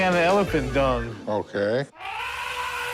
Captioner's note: elephant trumpeting